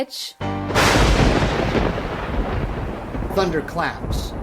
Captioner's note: thunder roars